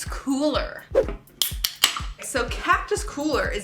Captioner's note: soda can opening